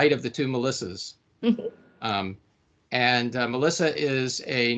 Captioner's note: chuckling